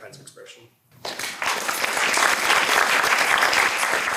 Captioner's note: applause